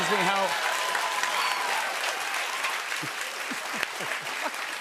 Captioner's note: cheers and applause